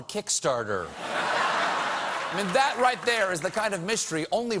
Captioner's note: laughter